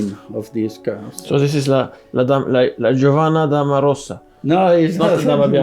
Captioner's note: laughs